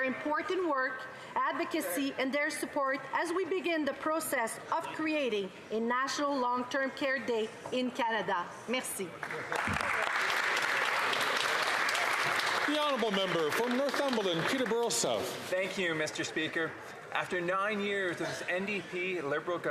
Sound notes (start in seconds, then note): 16.0 some Applause